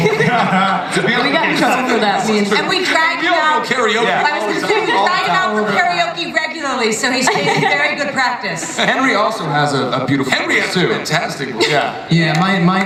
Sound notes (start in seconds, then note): 0.0 panelists laugh